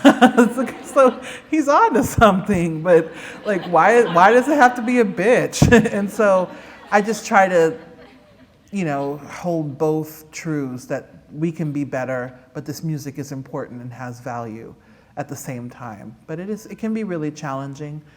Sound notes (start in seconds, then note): 0.0 laughter